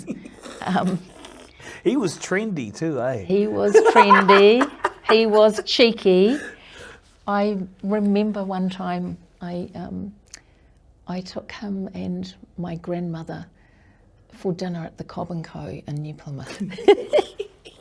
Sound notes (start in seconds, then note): 0.0 both laugh; 3.3 laughs